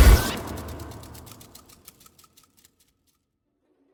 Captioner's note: clock mechanism winding down